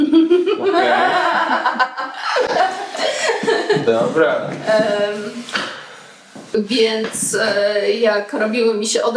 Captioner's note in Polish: śmiech